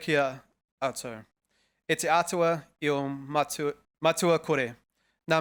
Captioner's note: speaking foreign language